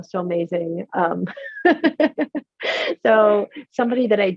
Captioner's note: laughs